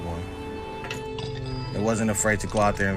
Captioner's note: spurs clanks